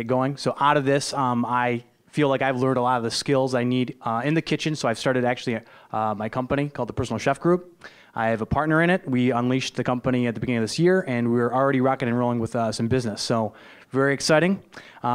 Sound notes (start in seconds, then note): none